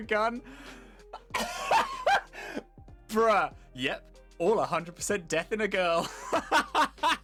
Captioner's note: the soul of a hyena takes over body as laughing starts up; laughing